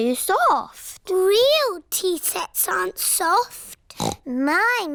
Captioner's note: snorts